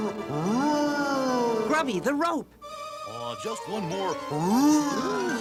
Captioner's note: growls